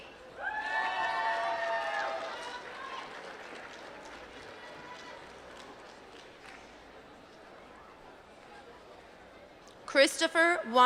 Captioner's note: applause